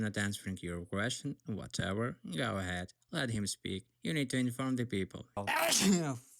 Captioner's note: sarcastic think